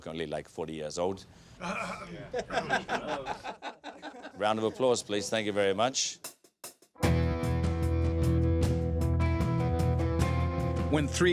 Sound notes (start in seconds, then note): 1.6 group clears throats and laughs; 7.1 suspenseful music